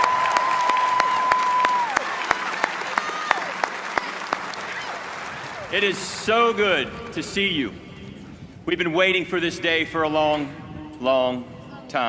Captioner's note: cheers and applause